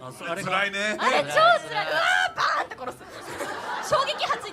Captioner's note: sobs